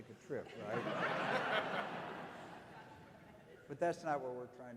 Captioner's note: audience laughing